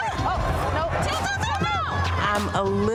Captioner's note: woman cheering